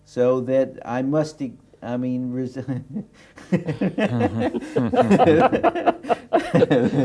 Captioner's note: laughter